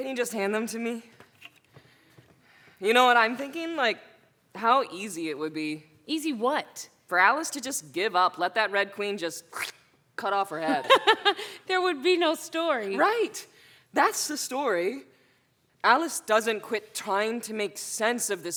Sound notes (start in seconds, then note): 10.1 squish